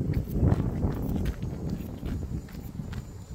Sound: wind blowing

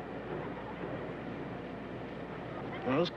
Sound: distant children laughing

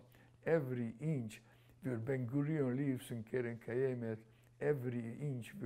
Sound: non-english

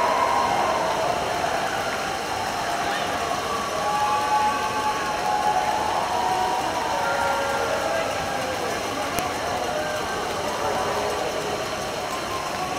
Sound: cheering

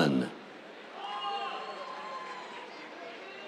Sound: cheers

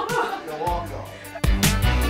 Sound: laughs; upbeat electronic music; voiceover

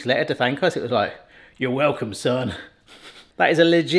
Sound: chuckles

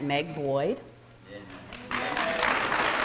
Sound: applause

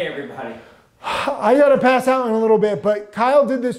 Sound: sighs

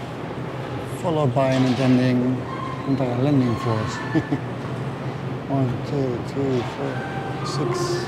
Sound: chuckle

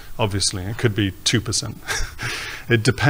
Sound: laughs

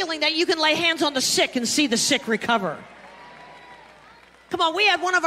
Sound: congregation clapping and cheering

